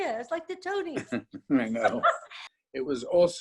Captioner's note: chuckles